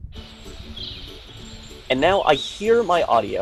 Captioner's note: playful acoustic music; birds chirping